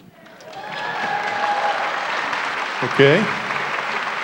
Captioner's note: applause, cheering